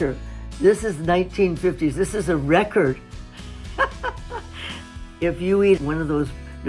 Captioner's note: chuckles